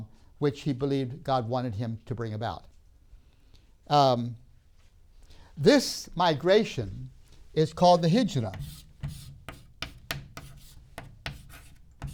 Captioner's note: chalk sounds